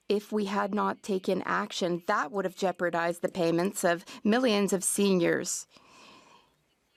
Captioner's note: speaking French